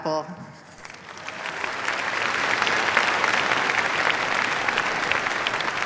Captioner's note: applause